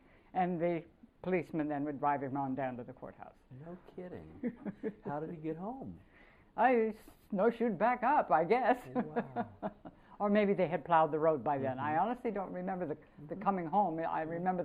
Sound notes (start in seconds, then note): 4.4 laughter; 8.8 laughter